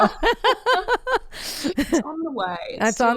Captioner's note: both laughing